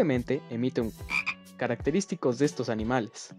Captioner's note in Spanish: sonido de sapo